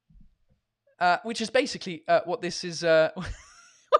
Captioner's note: laughs